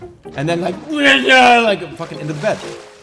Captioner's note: throws up